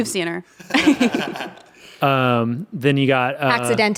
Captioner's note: everyone laughs